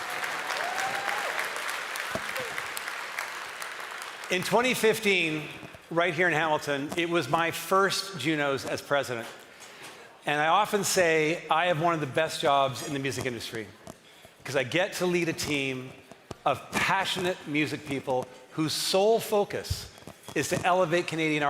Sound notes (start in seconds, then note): 5.6 cheering and applause